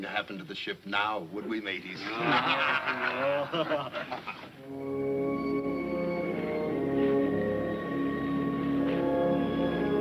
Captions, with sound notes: to the ship now, would we mateys? (laughing) (somber orchestral music)